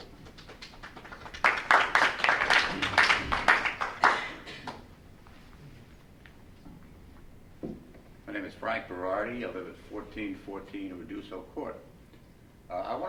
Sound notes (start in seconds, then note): 0.0 audience members clapping